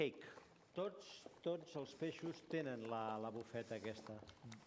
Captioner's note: non-english speech